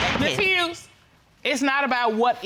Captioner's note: gavel banging